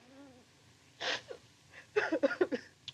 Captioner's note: sobs